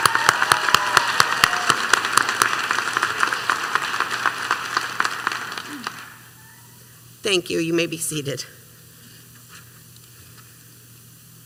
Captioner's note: applause